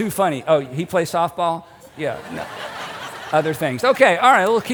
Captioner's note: audience laughing